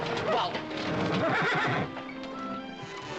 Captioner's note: horse neighing